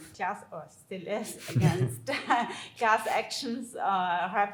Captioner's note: all laughing